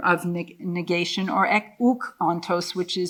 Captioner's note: speaking in foreign language